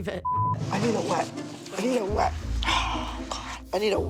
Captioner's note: sighs heavily